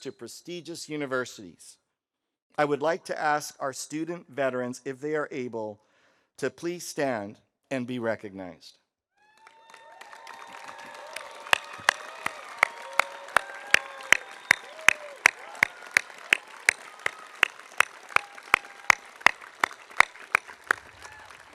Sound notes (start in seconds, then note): 9.6 audience applauding; 9.6 audience cheering